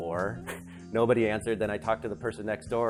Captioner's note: laughs